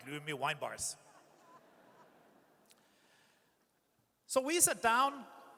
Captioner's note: audience chuckles